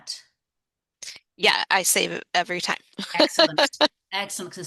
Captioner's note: laughter